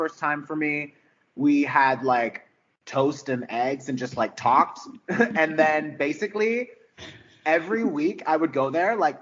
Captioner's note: giggles